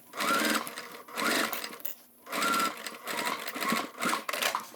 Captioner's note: sewing machine whirring